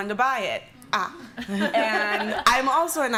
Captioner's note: laughter